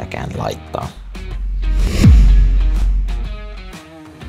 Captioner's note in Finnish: siirtymä-äänitehoste